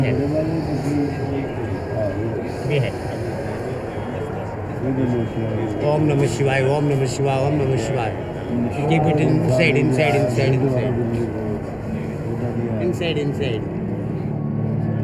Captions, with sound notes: - Be happy. Be happy. (speaking in foreign language) Keep it inside, inside, inside, inside. Inside, inside.